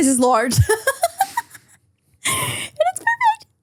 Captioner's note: person laughing